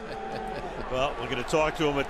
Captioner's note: laughs